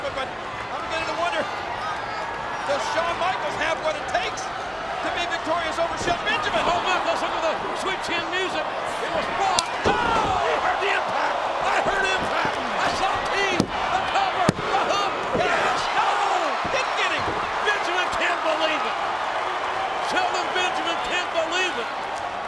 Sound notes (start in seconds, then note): 8.9 kick slaps; 15.8 audience cheers